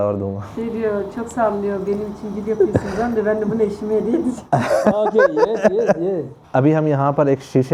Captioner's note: Turkish